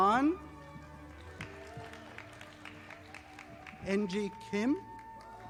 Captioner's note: audience applauding